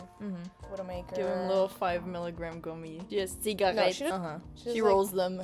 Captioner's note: french accents